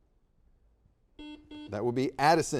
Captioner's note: buzzer dings